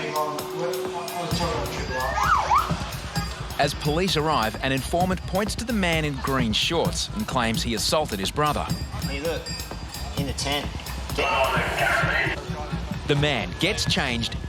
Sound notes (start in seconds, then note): 2.0 police siren; 11.2 male voice over walkie talkie